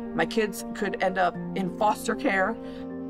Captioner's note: none